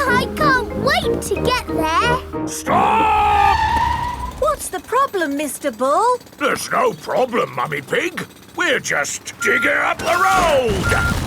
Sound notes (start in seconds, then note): 2.8 tires screeching